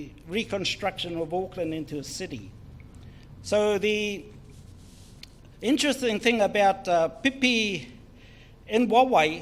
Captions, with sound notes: in the reconstruction of Auckland into a city. So the interesting thing about (speaks in foreign language)